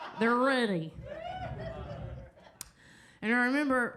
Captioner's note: audience laughs